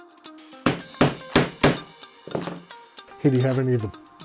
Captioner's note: hammer thuds